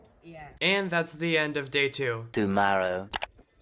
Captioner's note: voiceover